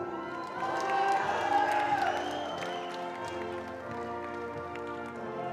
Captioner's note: attendees cheering and applauding